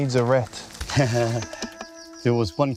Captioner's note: laughs